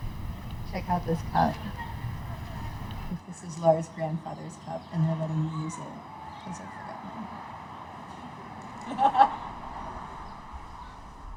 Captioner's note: laughter